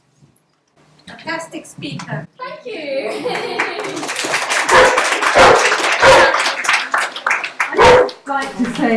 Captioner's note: applause and dogs barking